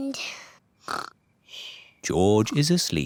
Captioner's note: snores